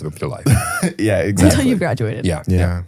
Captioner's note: chuckles